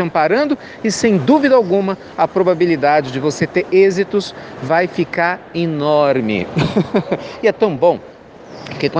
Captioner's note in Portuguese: risadas